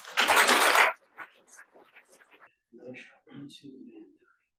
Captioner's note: audience applauds